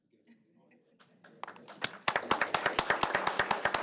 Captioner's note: applause